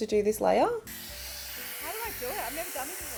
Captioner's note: hairdryer whirring